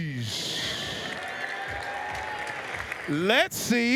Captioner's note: applause, cheers